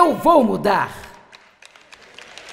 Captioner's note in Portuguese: audiência aplaude